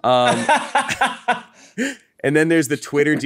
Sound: laughs

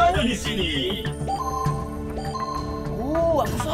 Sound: Mechanizer beeping

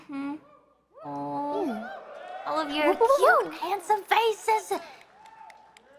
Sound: victory cheer

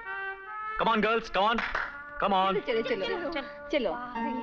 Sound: claps

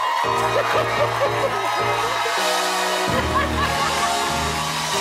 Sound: cheering

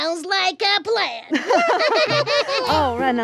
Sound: laughing

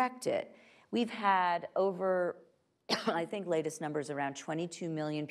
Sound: coughs

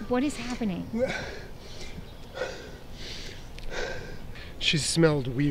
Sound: breathes heavily

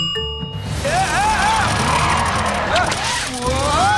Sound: yelling

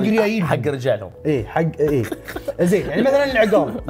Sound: laughs

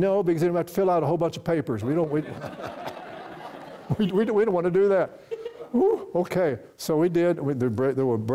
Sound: laughter from audience

